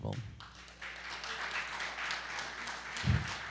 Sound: applause

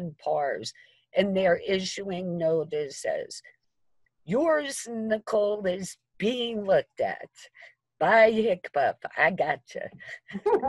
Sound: laughter

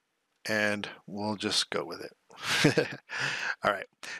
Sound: laughs

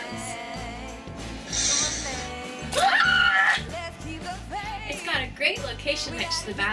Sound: screams

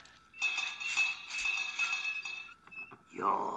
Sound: bell rings

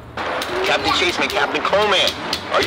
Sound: radio beeps; radio broadcasts Dino Dad

